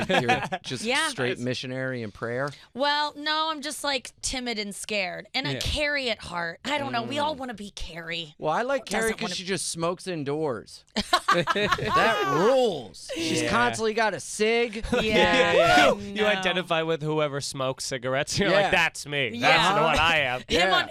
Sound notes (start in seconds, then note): 10.9 laughter